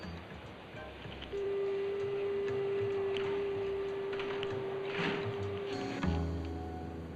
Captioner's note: phone ringtone; somber music